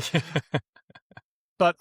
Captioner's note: laughs